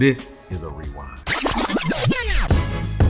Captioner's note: tape rewinding; upbeat hip-hop music